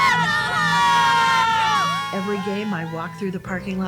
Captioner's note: yelling